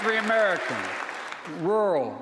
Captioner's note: applause